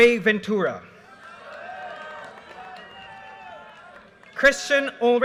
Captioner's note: audience cheers and applause